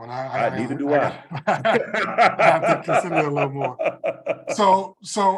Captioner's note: laugh